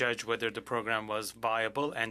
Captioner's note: speaking French